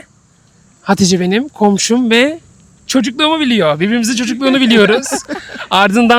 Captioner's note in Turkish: kahkaha